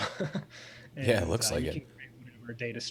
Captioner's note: laughs